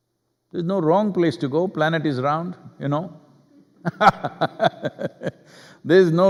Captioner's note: laughs